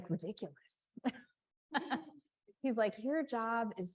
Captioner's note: chuckles